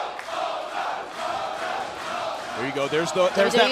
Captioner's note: crowd cheering